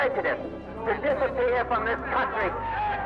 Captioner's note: cheers